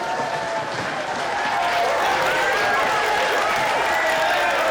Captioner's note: crowd applauding